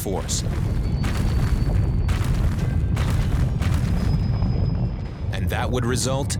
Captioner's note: rumbling, small explosions echoing